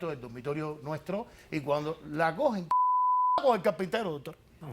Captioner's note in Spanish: Bip